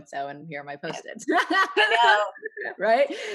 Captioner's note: laughing happily